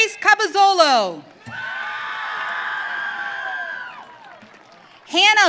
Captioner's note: audience cheering